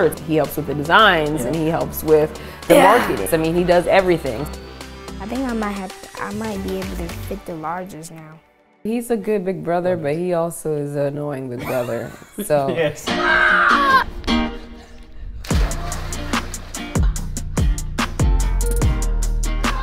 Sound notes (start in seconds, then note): 11.6 laughs; 15.5 upbeat music